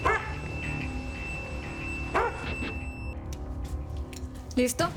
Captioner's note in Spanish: Ladridos